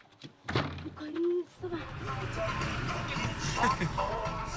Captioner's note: foreign spoken audio